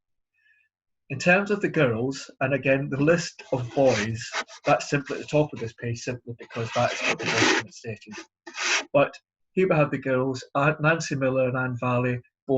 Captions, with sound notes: In terms of the girls and again the list of boys that's simply at the top of this page simply because that is for the (scratching noise) But here the idiot girls are Nancy Miller and Anne Valley.